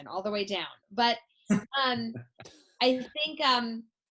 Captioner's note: laughs